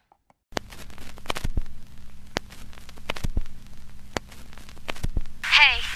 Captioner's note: static